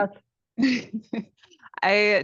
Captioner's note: laughter